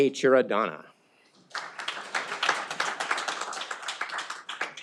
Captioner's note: audience applauding